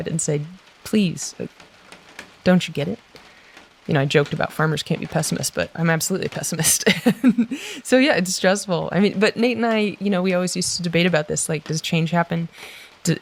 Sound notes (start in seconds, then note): 6.7 laughs